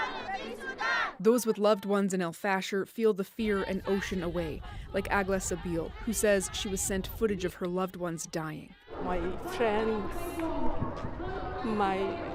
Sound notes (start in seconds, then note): 3.4 chanting